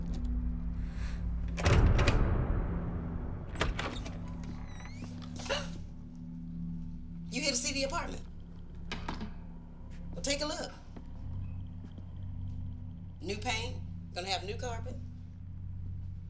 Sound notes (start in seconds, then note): 1.3 doorknob rattling; 5.2 woman gasps